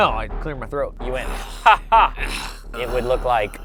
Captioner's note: laughs